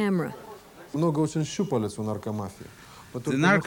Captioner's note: speaking foriegn language